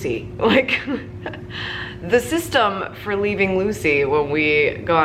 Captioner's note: chuckles